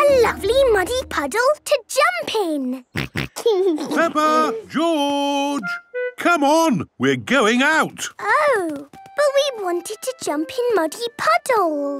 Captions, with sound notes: a lovely muddy puddle to jump in! (snorting and giggling) - Peppa! George! Come on, we're going out. - Oh. But we wanted to jump in muddy puddles!